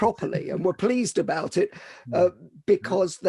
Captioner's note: laughs